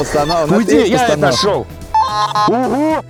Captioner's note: shouting from the side